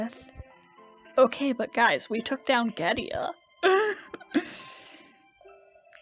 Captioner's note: laughs